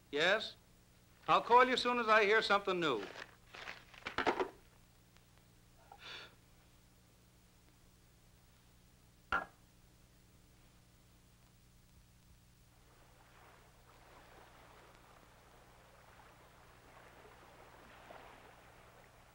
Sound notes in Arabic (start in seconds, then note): 5.8 تنهد; 12.7 حفيف الماء